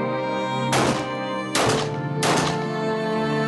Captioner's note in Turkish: Silah sesleri